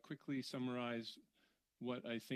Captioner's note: speaking in French